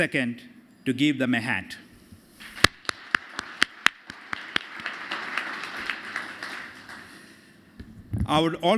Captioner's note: applause